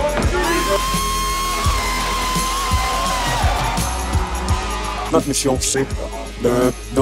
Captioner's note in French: applaudissements